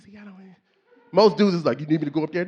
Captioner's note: faintly speaks